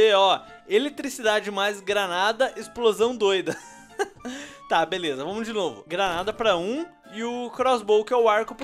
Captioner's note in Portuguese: Risos